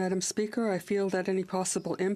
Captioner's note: speaking French